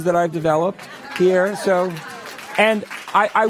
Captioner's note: applause